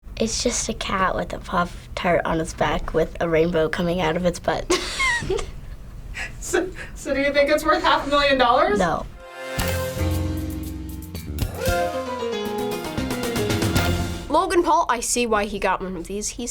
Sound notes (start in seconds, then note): 4.7 laughs; 9.2 playful intro